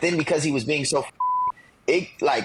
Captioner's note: beep